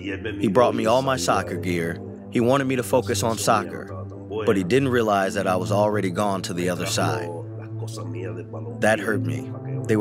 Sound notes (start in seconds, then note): 0.0 through translator; 8.9 through translator